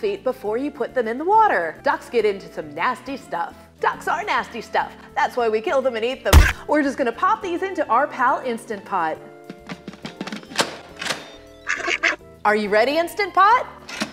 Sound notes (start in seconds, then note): 9.5 lid clicking; 11.6 duck quacking